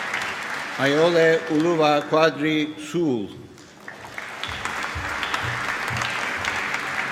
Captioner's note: applause